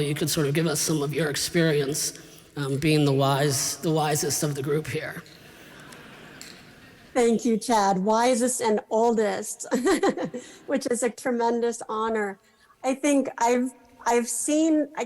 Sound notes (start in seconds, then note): 5.5 laughter; 9.7 laughs